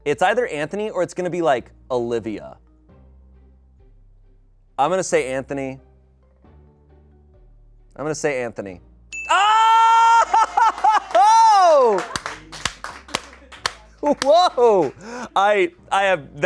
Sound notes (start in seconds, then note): 9.1 bell dings; 10.0 laughs; 12.1 audience applauding